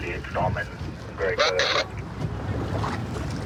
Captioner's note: radio communication